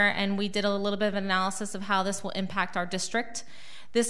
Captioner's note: none